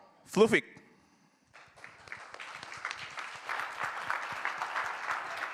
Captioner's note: applause